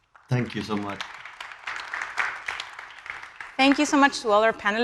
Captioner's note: audience applauding